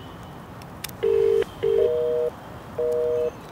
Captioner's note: Phone ringing